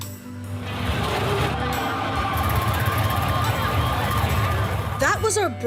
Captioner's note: law enforcement sirens